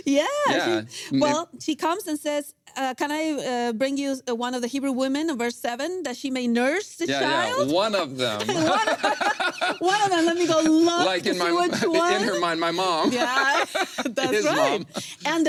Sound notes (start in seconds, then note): 8.2 both laugh; 12.8 laughs